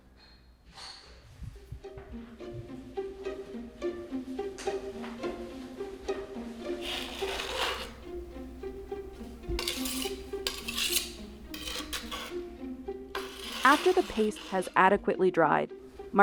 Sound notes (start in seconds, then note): 1.6 inquisitive music; 6.8 knife grinds; 9.4 knife scrapes